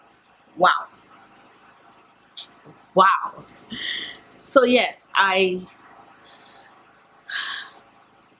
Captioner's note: sigh